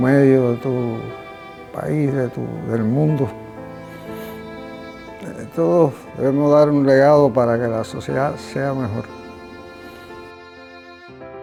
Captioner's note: speaking spanish